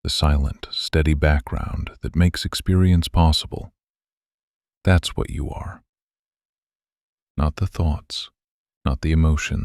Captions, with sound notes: That's what you are. [pause] Not the thoughts. Not the emotions. Not the voice narrating your life.